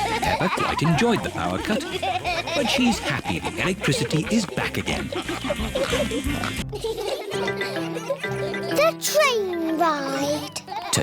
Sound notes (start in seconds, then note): 5.4 all giggling and snorting; 6.6 laughter